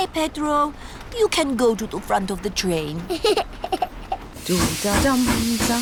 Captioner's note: giggles